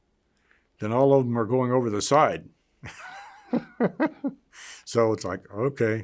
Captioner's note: laughs